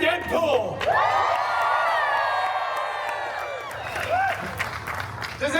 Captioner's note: guests cheering and applauding